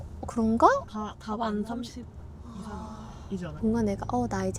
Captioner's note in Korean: 탄식 가득